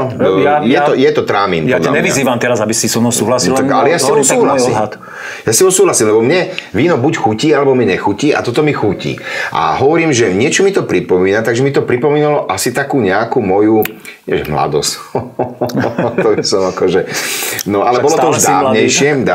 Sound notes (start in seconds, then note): 15.0 laughs